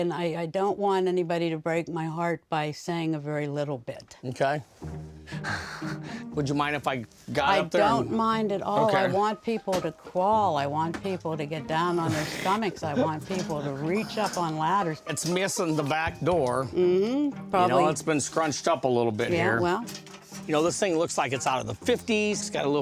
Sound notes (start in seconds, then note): 5.4 laughs